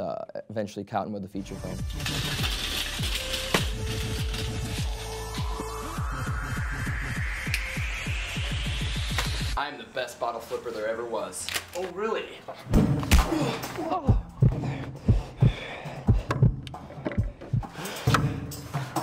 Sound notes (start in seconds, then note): 3.0 techno pop music; 13.0 heart pounding; 13.8 tense music